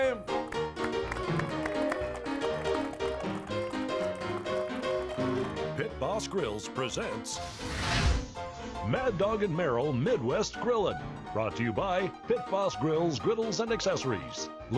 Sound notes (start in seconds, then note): 0.0 piano playing; 0.2 audience applauding; 7.4 flames whooshing